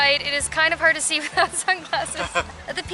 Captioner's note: laughter